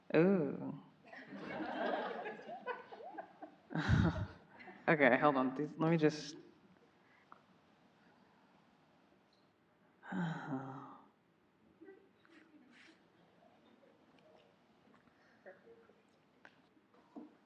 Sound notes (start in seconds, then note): 1.2 audience laughing; 3.7 laughing